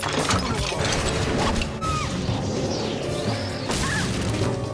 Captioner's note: screaming